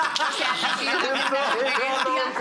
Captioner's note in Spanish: Carcajadas